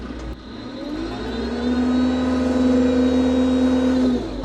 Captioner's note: machinery rumbles